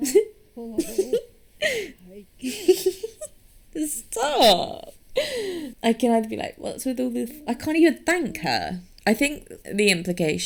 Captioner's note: giggles